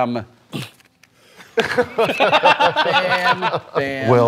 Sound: laughter

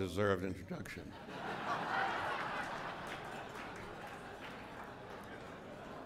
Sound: laughter

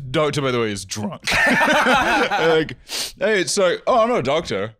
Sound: laughing

